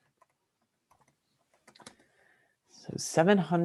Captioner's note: keyboard typing